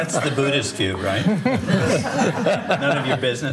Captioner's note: laughter